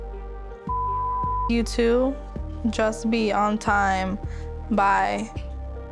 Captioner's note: beep